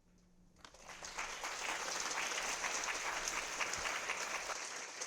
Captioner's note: audience clapping